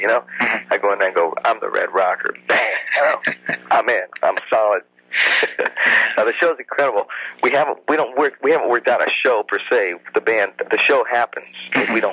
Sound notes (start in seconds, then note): 2.4 laughs; 5.7 laughs